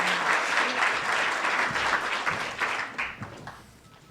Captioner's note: applause